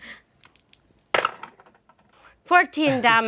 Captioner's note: dice roll